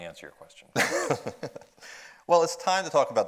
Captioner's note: laughs